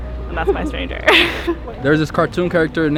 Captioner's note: chuckles